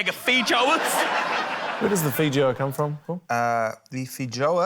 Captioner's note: laughter